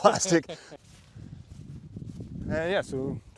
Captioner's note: both laughing